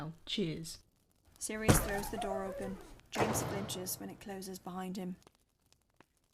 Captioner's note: door flings open and slams shut